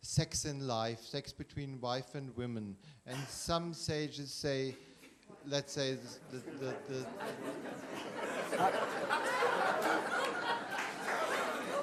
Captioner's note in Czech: smích